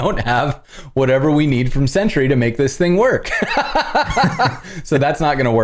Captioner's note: laughter